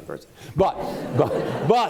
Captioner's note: laughter